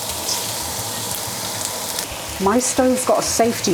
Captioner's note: sizzle